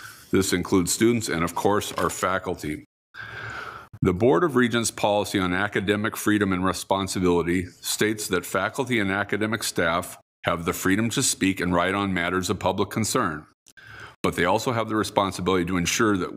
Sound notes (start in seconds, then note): none